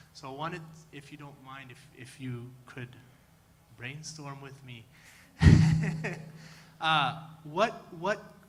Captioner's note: laughter